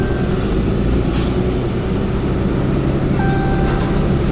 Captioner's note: truck engine revving